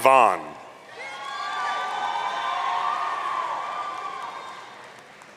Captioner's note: audience cheering